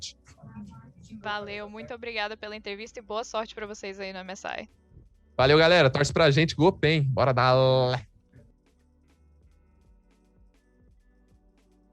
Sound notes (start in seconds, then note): 5.4 robo noises